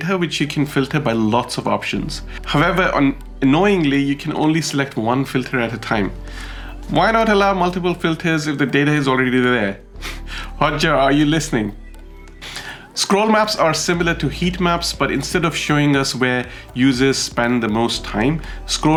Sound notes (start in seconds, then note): 11.8 chuckles